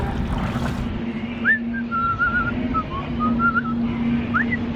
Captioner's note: whistling